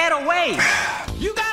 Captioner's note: evil breathing